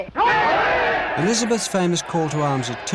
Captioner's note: cheering